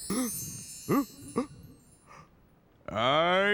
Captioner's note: gasps